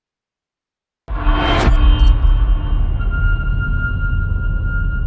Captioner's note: dramatic sound